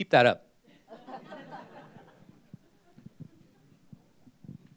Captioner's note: laughter